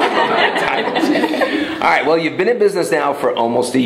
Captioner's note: laughter